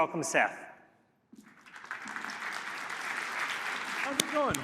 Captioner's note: applause